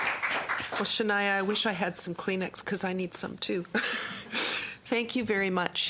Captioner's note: applause